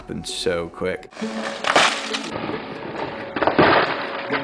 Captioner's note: crashing